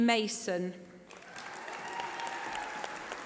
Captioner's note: applause